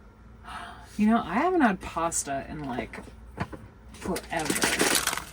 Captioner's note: gasps